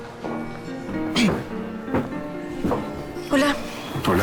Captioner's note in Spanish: Carraspea